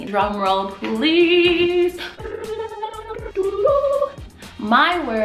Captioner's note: ridiculous self-made drum roll